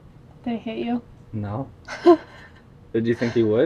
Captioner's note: laughs